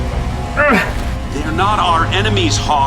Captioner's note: Hawk grunts